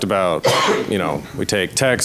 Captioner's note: coughs